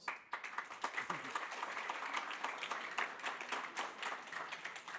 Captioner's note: laughter